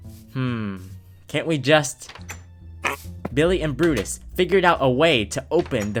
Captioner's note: pig oinks